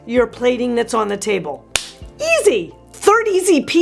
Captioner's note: claps